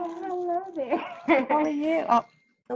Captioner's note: laughing